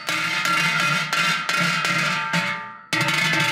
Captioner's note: none